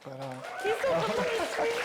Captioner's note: audience cheering